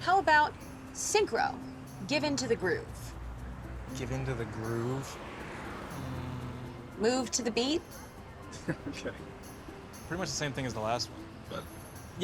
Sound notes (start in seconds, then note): 8.6 chuckling